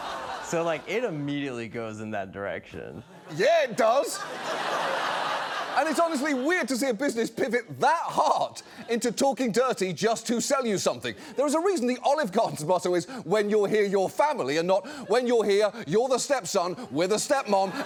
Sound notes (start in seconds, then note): 3.0 audience laughs